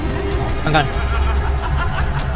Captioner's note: Mommy Long Legs’ devilish laughter; Mommy Long Legs’s devilish laughter